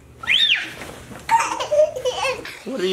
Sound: screams

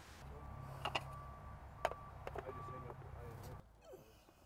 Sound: metal clacking

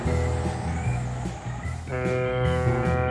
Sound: horn blows

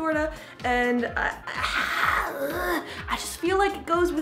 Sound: groaning

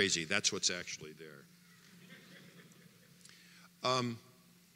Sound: audience laughter

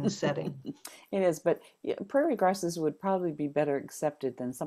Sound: laughs

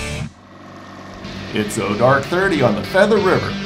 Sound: boat engine running

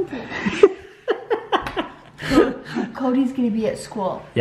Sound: laughs

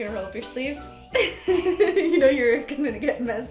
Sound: laughs

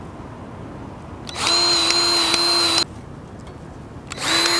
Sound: grease gun revving

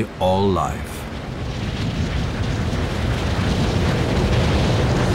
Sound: wind roars

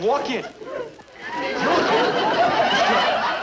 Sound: audience laughing

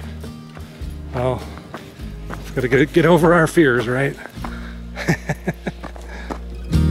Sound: laugher

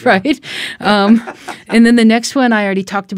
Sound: chuckles

